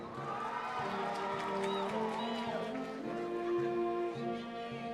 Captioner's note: cheering; orchestral music